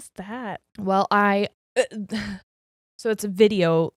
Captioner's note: sighs